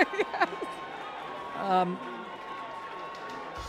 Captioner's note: laughing